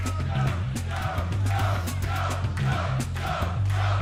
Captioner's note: fans chanting